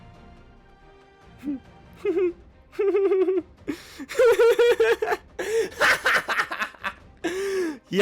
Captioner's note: manically laughing